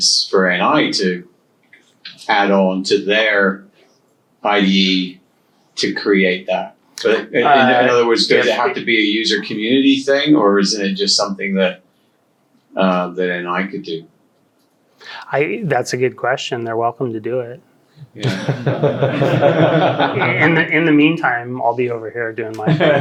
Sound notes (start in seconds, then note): 18.1 audience laughs; 22.6 audience laughs